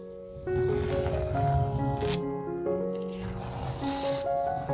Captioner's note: peeling off masking tape sounds